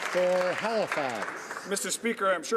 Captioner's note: some Applause